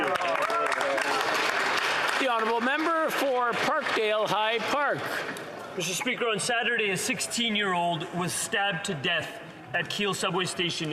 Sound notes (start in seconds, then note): 3.4 some Applause